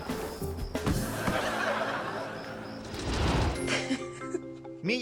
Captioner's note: audience laughing